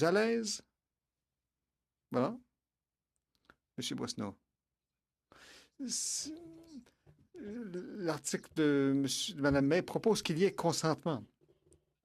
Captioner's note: speaking French